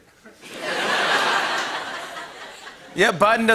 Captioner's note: laughter